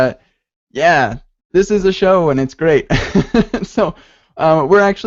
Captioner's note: laughs